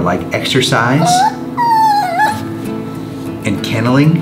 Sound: giggles whining

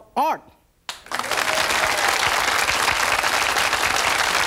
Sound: audience claps

